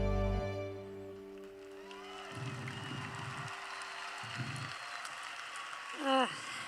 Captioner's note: applause